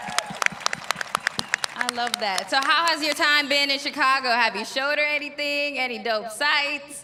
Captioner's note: applause